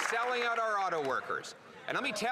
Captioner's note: applause